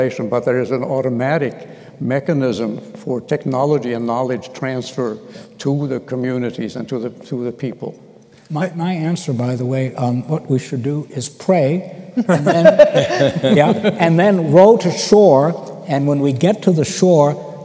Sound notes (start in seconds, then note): 12.2 laughter